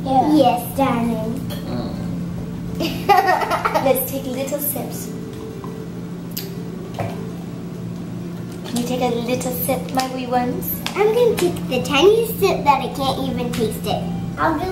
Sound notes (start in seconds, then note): 2.8 laughs